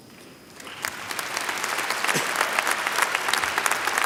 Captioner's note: applause